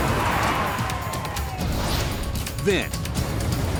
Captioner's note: vehicles slam